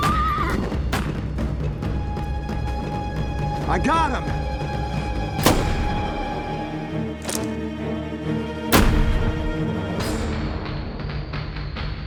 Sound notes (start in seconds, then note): 5.4 gun shot; 8.7 gun shot